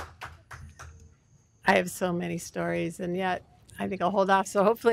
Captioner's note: applause